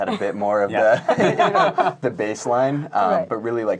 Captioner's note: laughing